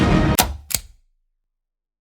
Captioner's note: click